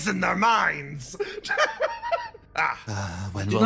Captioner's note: laugh